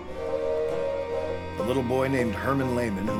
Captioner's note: train whistle